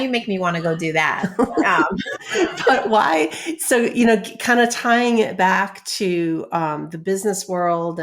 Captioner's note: laughs